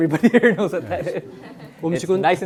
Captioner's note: laughs; students laughing